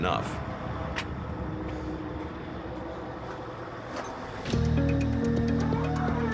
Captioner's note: engine noise